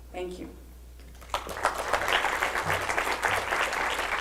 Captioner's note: applause